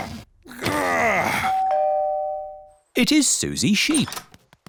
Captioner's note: groans; doorbell rings